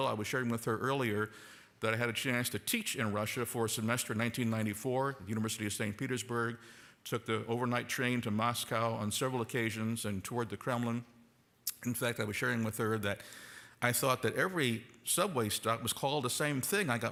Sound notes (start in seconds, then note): none